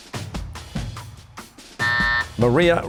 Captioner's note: buzzer